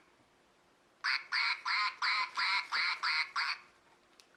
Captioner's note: quack quack quack quack quack quack quack